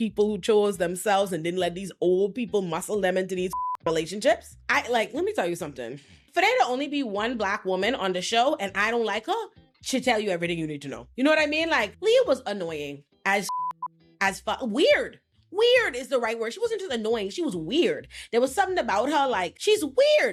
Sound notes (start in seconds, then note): 3.5 beep; 13.4 beep